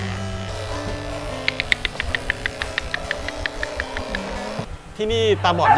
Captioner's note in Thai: เสียงกระดกลิ้น; เสียงเห่า